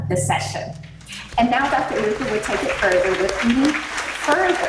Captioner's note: audience applauding